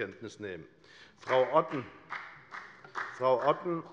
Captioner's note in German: Beifall bei der FDP